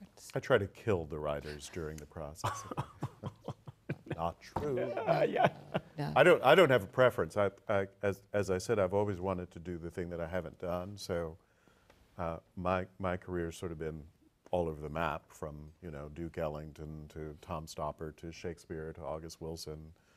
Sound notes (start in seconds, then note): 2.4 laughs